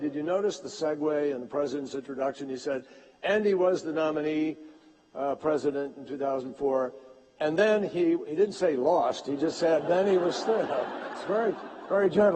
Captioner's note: laughter